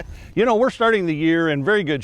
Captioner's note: chuckles